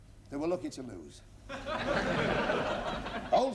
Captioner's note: laughter